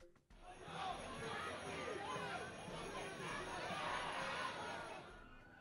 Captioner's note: crowd chanting and shouting